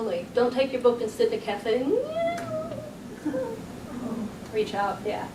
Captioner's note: low mumbling